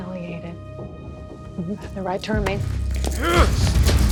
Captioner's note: grunts